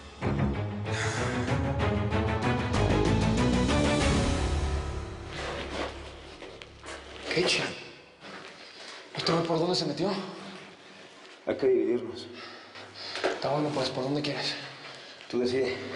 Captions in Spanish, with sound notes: [Suspiros] - !QUE CH---! ENTONCES, ¿POR DONDE SE METIO? - HAY QUE IRNOS. - 'TA BUENO, PUES. ¿POR DONDE QUIERES?